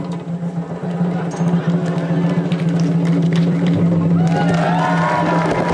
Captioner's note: applause